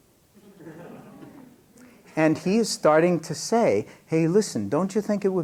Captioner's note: laughter